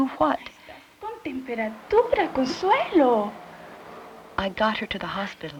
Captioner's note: speaking Spanish